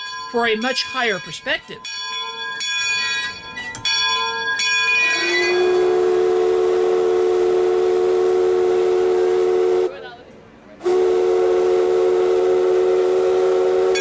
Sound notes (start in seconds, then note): 2.5 bell ringing; 5.1 whistle sounding; 10.9 whistle sounding